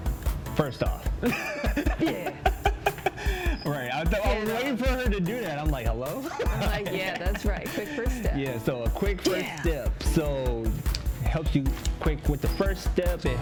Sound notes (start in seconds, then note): 1.2 continues laughing; 1.2 laughs; 6.1 laughs